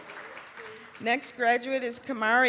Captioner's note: cheering and applause